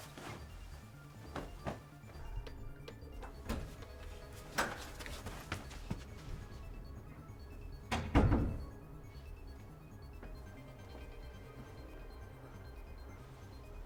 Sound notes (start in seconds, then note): 0.2 soft suspenseful music; 1.1 hands thudding; 4.9 door clicks; 7.9 door thuds; 9.4 soft suspenseful music continues